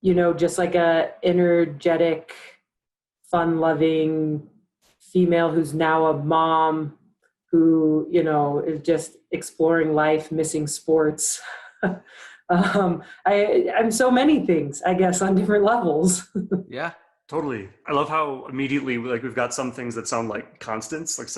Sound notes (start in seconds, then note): 11.2 laughs; 17.4 laughs